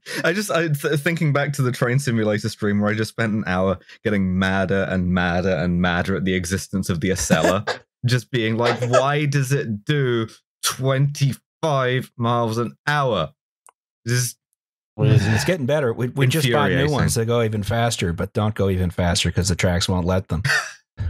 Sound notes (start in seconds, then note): 0.1 laughs; 10.4 through gritted teeth